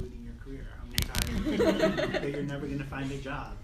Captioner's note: laughs